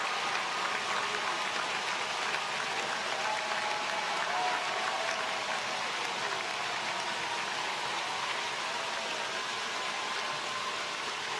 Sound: applause

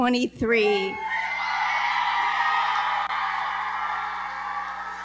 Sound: audience cheering and clapping

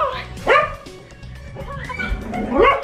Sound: Logan barks; giggling

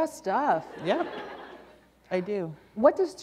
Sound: laughter

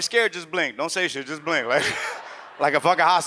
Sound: audience laughs; laughs

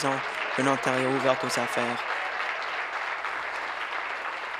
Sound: applause

